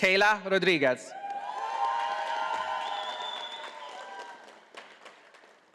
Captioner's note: audience applauding